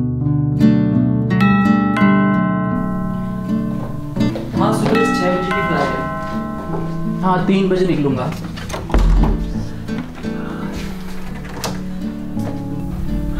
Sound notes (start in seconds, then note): 1.4 door bell ringing; 8.3 door opening